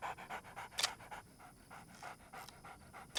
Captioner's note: camera shutter clicks